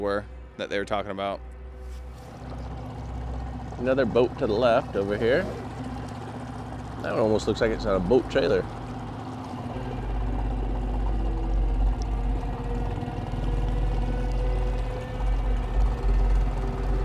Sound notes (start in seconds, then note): 10.6 boat engine rumbling; 10.6 suspenseful music